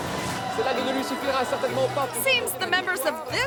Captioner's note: news reporter speaks in foreign language